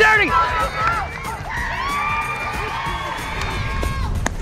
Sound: crowd cheers

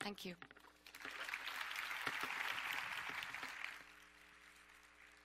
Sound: audience applause

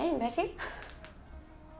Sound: laughs

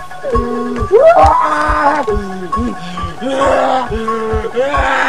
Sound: in pain

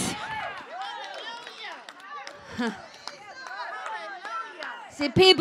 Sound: congregation chattering

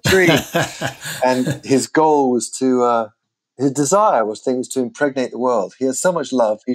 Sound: laughter

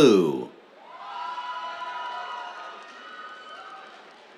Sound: cheers, applause

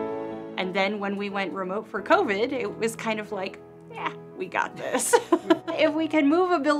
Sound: laugh

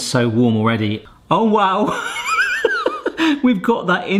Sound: laughs

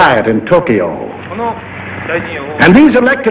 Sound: man speaking Japanese

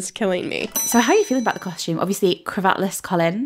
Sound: bell dings

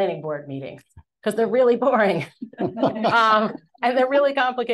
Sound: panelists chuckling

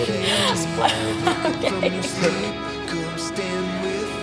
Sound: laughing

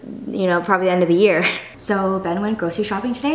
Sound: laughs

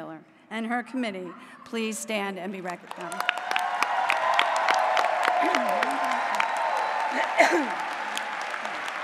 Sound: applause

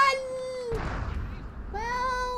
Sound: explosion

